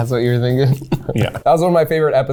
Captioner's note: chuckling